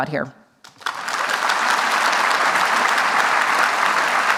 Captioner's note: applause